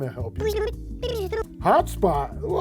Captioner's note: fast forward voice effect